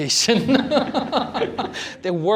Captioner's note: laughter